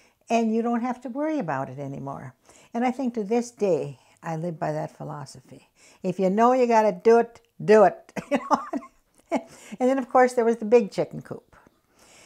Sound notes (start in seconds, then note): 8.2 laughs